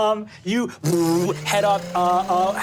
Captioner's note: spurts